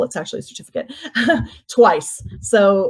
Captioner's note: laughs